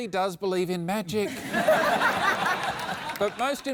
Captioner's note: laughter